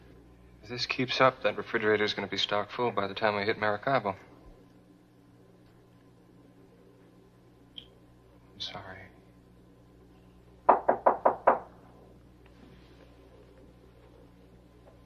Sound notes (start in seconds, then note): 10.6 knock on door